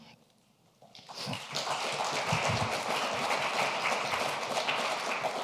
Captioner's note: audience applauding